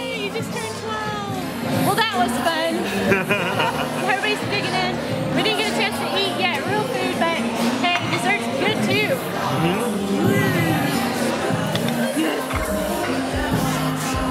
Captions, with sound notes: - Yay, you just turned 12. Well that was fun. (laughing) Everybody's digging in; we didn't get a chance to eat yet real food, but hey dessert's good too. Mmm.